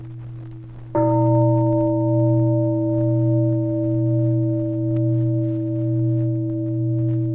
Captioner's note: deep bell sounds